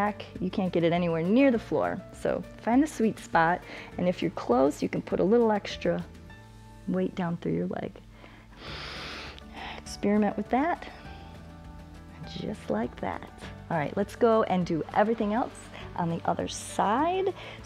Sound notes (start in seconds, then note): 8.1 inhales